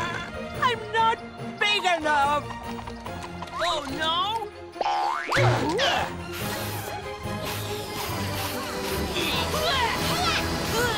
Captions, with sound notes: I'm not big enough! Oh, no? [grunting] [grunting]